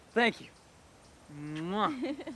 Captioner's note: kissing sound